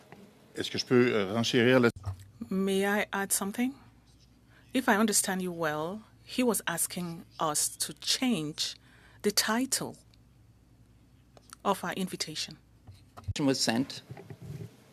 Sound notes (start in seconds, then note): 8.8 speaking French